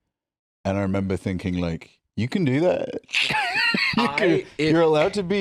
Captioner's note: laughs